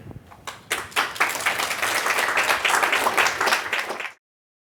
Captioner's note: audience applauds